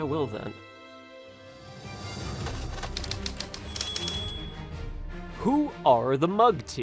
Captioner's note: typewriter chimes